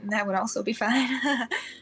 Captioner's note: nervous laugh